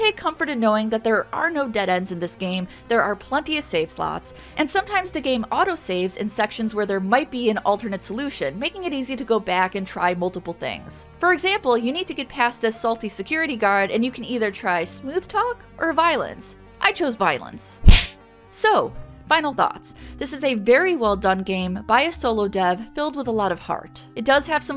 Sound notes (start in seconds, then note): 17.8 smack!